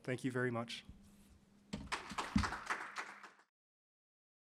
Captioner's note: applause